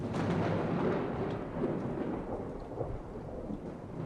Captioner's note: thunder booms